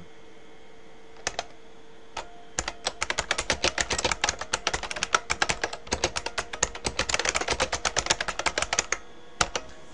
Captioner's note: typing